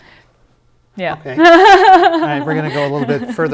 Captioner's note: laughter